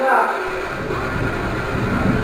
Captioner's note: dragging noise